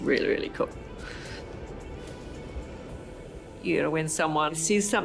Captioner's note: wind howling